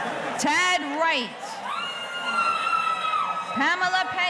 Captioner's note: audience cheering